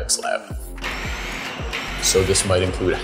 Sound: machine buzzing

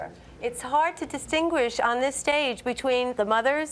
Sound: none

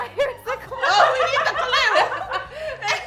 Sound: laughing

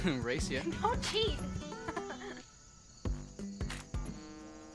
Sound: laughs

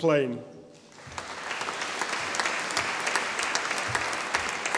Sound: audience applauding

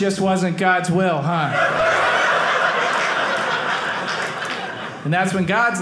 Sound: audience laughing

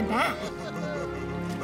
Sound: crying

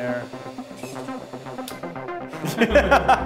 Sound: machine whirring; person laughing

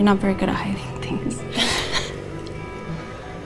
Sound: Robin chuckles

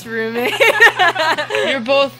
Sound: laughing

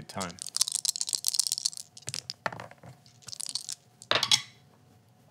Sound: dice rattling

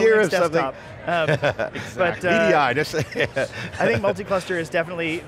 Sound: laughs

